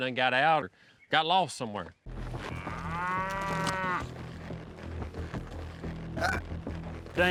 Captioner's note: mooing